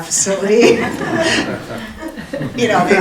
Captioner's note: audience laughing